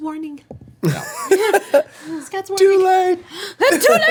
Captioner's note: laughing